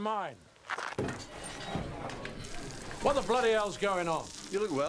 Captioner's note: patrons chattering